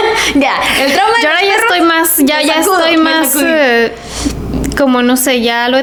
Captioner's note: sighs